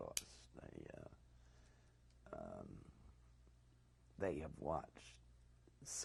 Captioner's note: pauses for 3 seconds